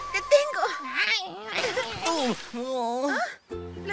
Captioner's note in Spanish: Sonido de agua